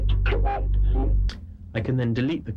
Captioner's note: robotic command